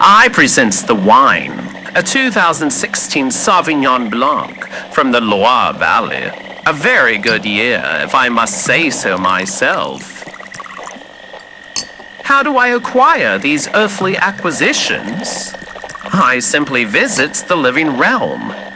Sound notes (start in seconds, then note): 7.0 uncorking bottle fx; 10.3 pouring wine fx, glass clinking fx